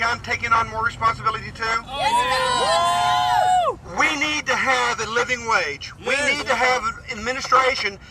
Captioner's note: cheers and screams in background